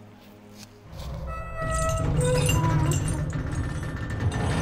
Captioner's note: sound of metal doors closing